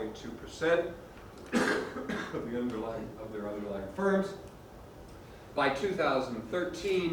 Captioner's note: cough